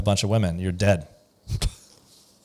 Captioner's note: laughs